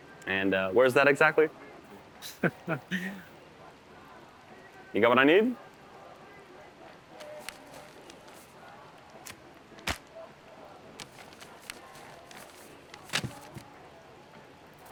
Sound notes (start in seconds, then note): 2.2 both laughing